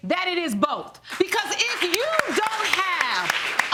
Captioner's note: audience clapping